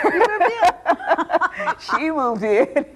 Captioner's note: both laughing